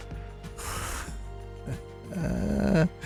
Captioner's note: laughs